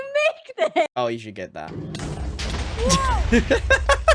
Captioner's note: explosions; laughs